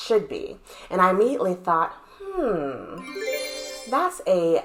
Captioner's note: sound effect